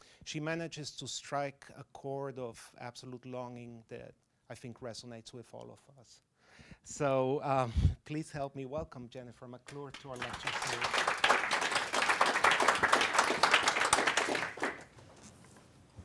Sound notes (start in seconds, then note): 7.2 laughing; 13.1 applauding